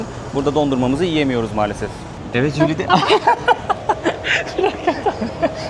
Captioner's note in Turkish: kahkaha